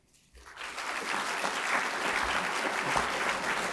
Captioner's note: applause